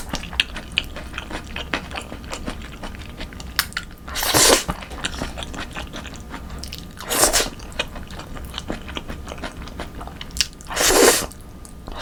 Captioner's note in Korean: 냠냠중